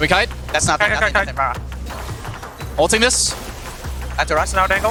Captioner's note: teammates communicating